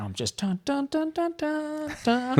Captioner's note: humming